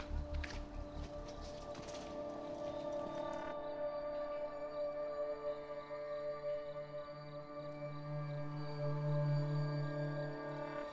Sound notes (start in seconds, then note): 2.0 crickets chirping